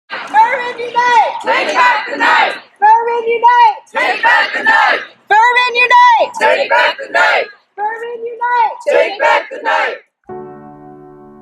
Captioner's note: chanting